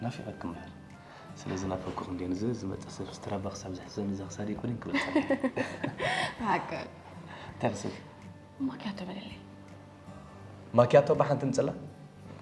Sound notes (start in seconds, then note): 4.9 laughs